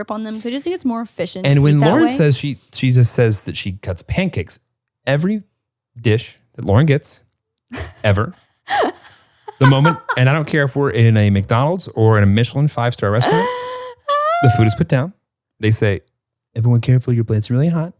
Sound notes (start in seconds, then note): 8.7 laughs